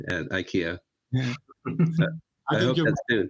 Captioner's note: laugh